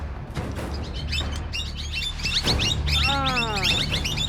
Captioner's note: birds chirp loudly